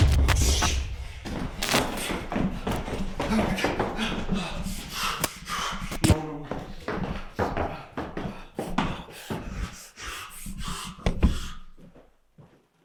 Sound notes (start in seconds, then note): 1.4 static crackles; 1.9 feet stomping; 6.3 panting